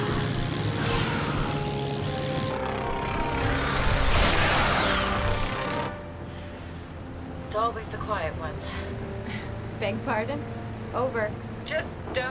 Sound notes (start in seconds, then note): 0.0 dramatic music; 0.8 creatures screeching; 3.8 turrets firing